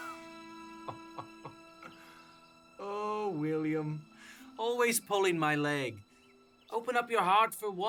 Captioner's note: Lewis chuckles